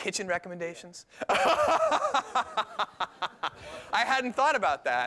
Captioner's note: laughter